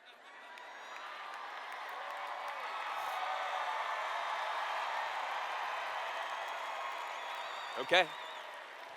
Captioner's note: cheers